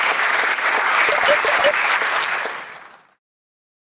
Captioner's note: applause